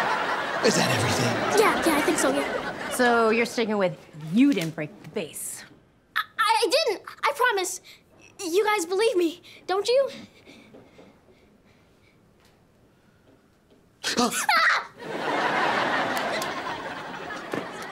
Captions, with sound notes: - Is that everything? - Yeah, yeah. I think so, yeah. So you're sticking with you didn't break the vase. I didn't. I promise. You guys believe me, don't you? - Ah! - [screams]